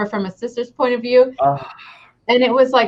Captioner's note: exclaims